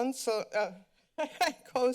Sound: laughs

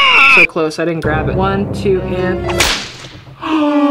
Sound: yells; whip sounds; gasps

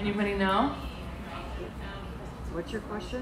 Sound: audience members talking faintly

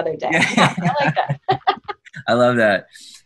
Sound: laughing

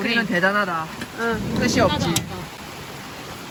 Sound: heavy rain comes with thunder sound

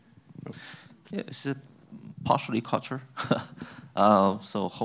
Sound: laughs

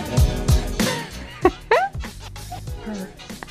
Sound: laughs

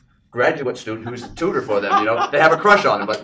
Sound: laughing

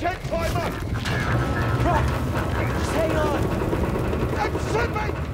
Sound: warble

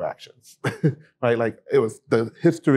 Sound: laughter

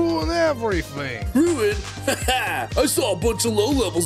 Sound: chuckles

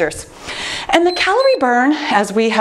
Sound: timer beeps

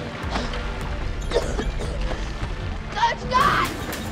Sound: Misty coughing

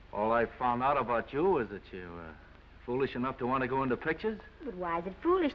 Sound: none

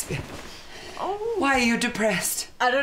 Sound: moans

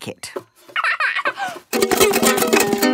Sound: giggles; vigorous, unpleasant strumming

